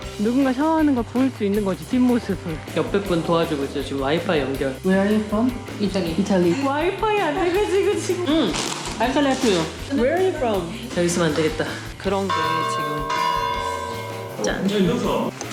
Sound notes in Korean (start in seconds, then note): 12.1 맑은 종소리